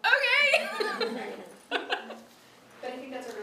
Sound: laughs

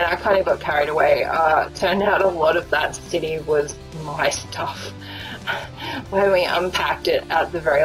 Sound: laughs

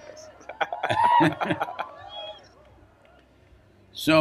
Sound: both laugh; cheering

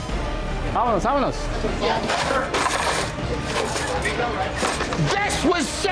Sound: speaking in foreign language

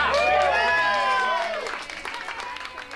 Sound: all cheering

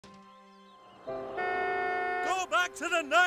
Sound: long honk

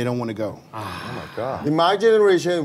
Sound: hosts are sighing

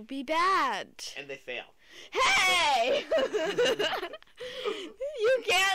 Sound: laughter

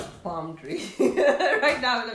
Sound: laughing

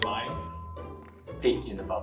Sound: bell dings

